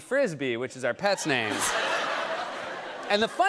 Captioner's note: laughter